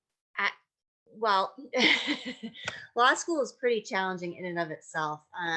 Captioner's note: laughs